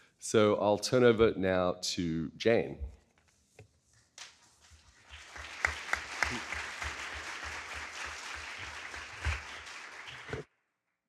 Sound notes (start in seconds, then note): 4.8 audience clapping